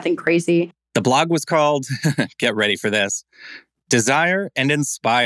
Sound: chuckles

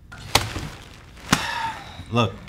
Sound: sighs

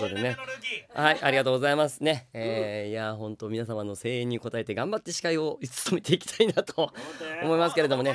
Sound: laughs

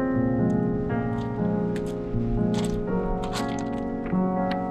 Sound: cobblers rolling

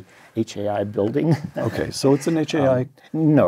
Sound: laugh

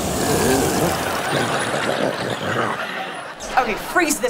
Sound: grumbling

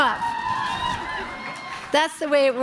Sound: crowd cheering

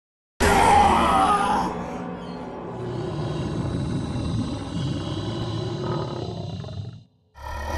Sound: demonic groaning; groaning

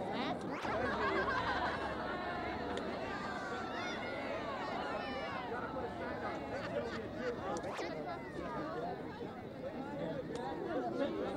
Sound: ambient noise and laughter

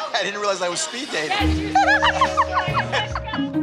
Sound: laughing

